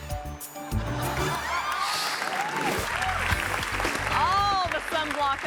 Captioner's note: audience laughing and clapping